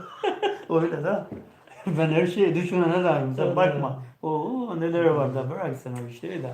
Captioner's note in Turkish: kahkaha